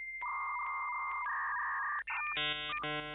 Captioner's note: sound of dial-up data modem